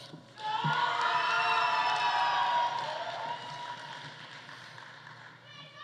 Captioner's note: audience cheering; audience applauding